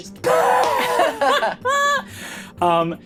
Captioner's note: laughs